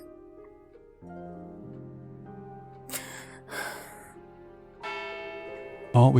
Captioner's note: sigh